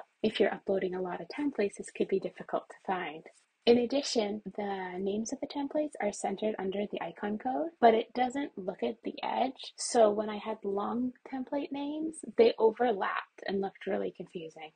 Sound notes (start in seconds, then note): none